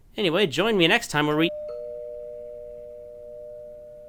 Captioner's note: ding Dong